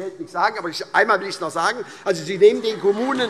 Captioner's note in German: Heiterkeit